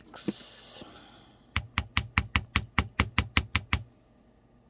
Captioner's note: tapping